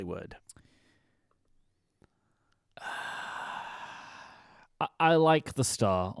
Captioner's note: sighs